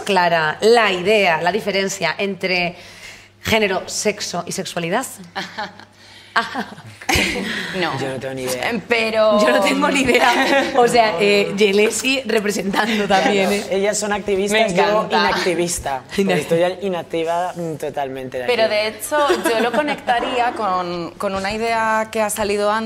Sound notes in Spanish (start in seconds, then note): 4.7 ríe sarcástica; 9.4 todos ríen